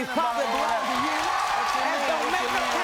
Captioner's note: cheering